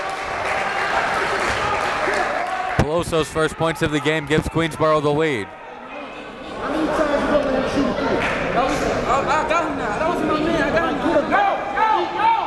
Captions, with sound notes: (applauding) Peloso's first points of the game gives Queensborough the lead. (players chattering)